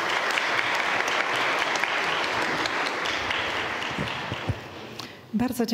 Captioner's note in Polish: oklaski